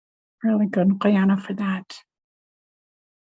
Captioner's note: speaks Native language